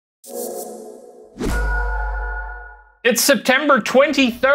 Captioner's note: a whoosh and a ping